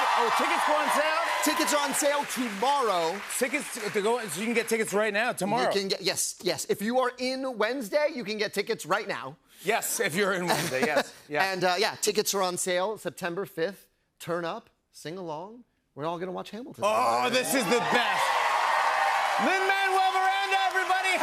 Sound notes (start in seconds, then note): 16.9 cheers and applause